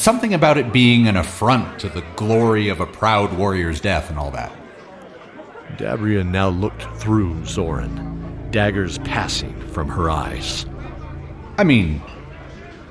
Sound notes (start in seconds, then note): none